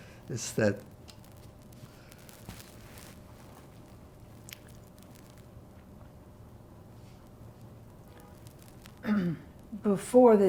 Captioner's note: pauses 8 seconds